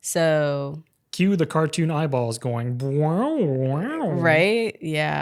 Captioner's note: cartoon noises